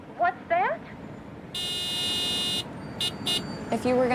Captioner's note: honking cars